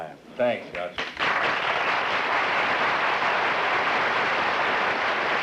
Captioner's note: applause